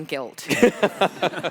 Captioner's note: laughs